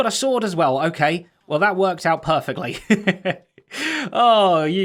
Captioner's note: chuckles